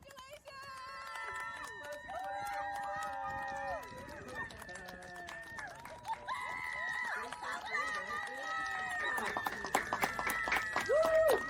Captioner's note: clapping and cheering